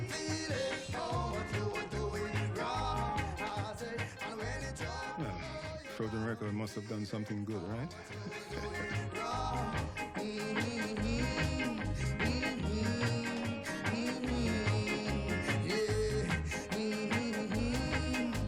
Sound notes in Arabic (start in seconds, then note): 10.3 همهمة; 15.2 طنين